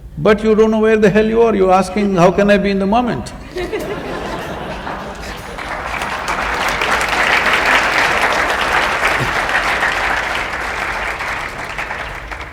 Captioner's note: laughter/Applause